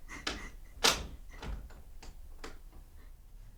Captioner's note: shutting door, locks